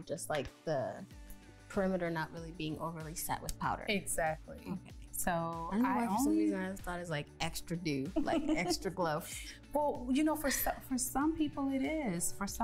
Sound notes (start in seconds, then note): 7.7 laughing